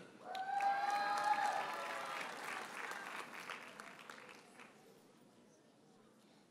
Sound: audience cheers and applauds

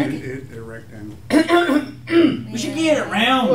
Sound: Mike clears throat

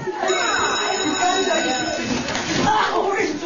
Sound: bell ringing

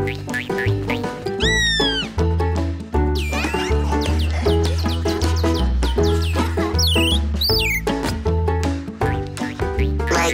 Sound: chirping

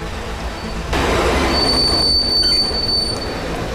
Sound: tires squealing

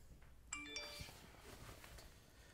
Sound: cell phone rings

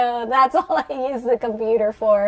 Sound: laughter

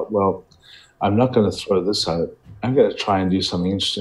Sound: none

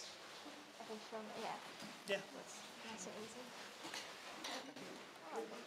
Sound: people chattering

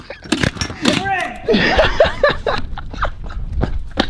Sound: laughing

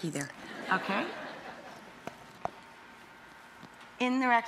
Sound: audience laughs

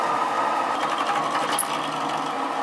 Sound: chattering whirring

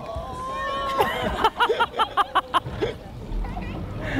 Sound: laughter

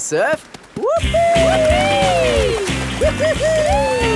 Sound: both whooping

